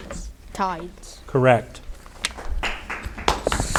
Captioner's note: audience applauding